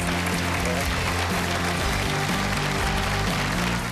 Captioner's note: applause